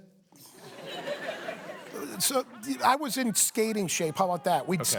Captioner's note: laughter